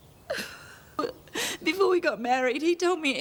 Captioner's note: Trina sobbing